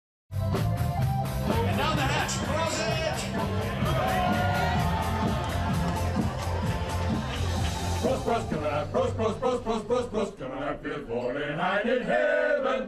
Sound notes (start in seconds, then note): 3.4 cheering; 7.6 singing in German